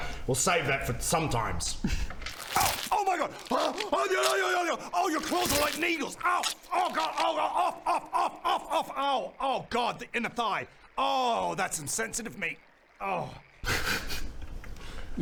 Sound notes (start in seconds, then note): 2.1 nasty clawing noises